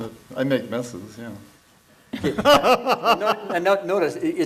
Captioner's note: laughs